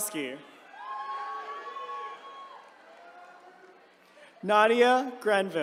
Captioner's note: attendees cheering